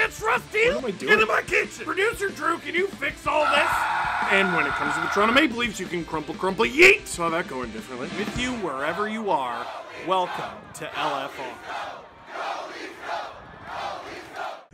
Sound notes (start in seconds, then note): 3.4 screaming